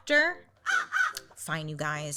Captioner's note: crow caws